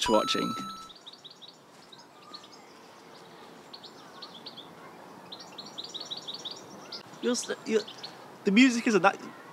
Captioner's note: birds chirping